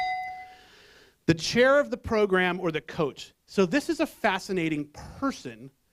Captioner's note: bell